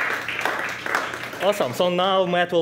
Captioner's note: crowd applause